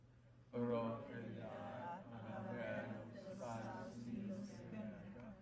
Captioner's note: speaking in foreign language